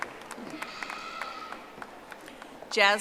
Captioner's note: audience applauding